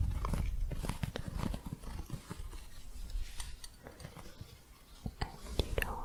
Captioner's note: soft scratching and gentle jingling